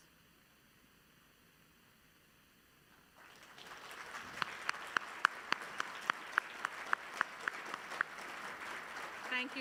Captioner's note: applause